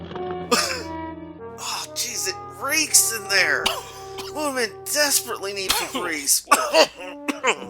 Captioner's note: cough; cough and gasp